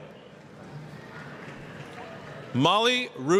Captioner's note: applause